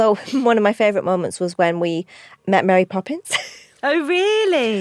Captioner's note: laughs